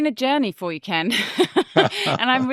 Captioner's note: both chuckling